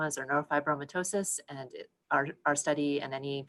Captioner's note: none